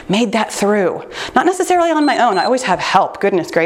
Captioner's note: timer beeps